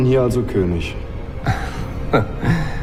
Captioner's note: chuckles